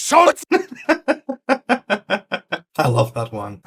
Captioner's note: genuinely cracks-up